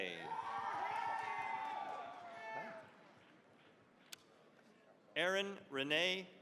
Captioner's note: cheering, applause